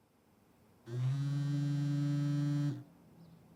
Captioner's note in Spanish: sonido vibración del móvil